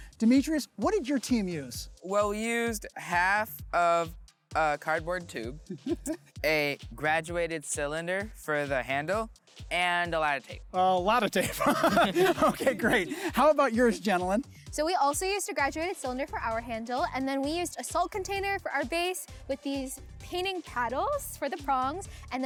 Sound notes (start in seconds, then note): 5.6 laughs; 11.3 laughs; 11.9 crew laughs